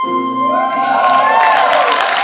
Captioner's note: audience cheering and applauding